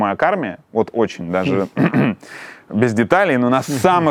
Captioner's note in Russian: прочищает горло